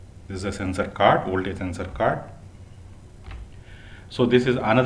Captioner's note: fan blower